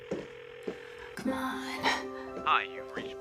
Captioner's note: phone ringing